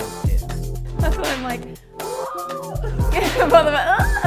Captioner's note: squeals